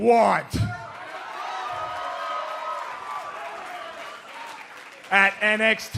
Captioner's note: cheers and applause